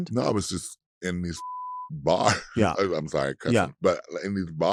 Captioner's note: beeps